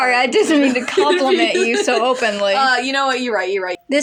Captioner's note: laughing